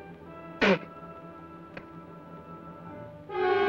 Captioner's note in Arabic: يبصق; موسيقى أوركسترالية مشؤومة